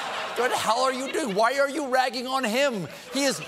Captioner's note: laughter